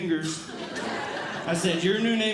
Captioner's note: audience Laughing